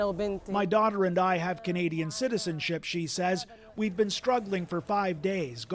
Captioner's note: speaking alternate language